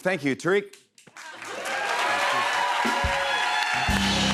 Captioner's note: cheers and applause